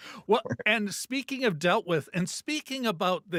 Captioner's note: laughing